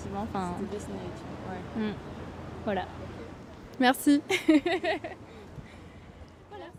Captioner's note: laughter